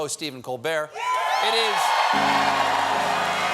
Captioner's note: cheers and applause